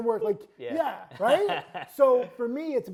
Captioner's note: laughing